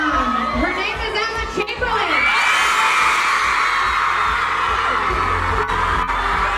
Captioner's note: crowd cheers